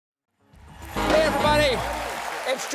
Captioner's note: applause